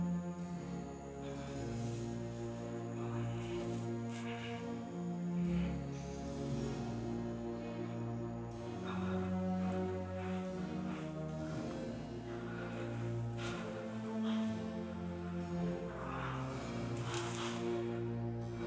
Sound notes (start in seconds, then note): 12.6 Heathcliff breathing hard; 16.1 soft music